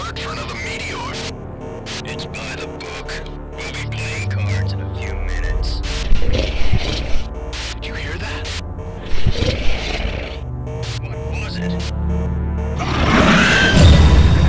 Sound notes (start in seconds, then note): 5.9 alien Warrior growls; 9.0 Alien Warrior growls again